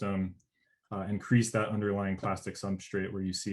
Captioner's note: murmurs